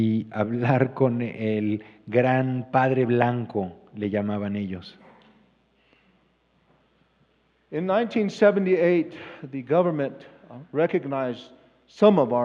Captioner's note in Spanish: Expositor habla en inglés